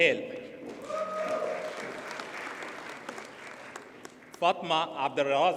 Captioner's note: audience cheers and applauds